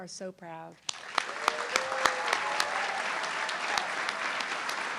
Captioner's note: audience clapping